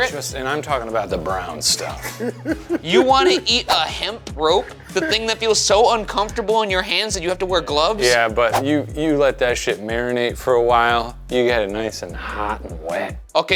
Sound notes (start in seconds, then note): 1.7 laughs